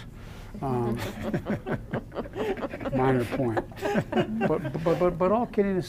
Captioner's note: laughter